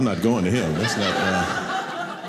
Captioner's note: audience laughing